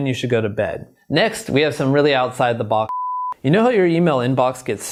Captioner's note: beep